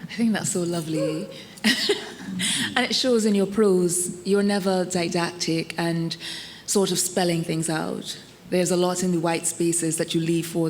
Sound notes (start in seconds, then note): 0.9 attendee cheering; 1.6 laughing